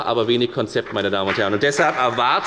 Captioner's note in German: Beifall bei der FDP